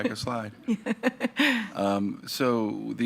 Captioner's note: laughs